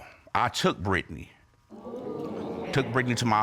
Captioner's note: audience exclaims